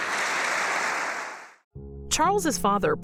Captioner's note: audience applauding